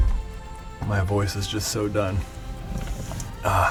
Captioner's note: cracks neck